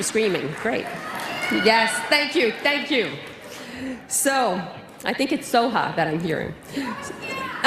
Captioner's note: applause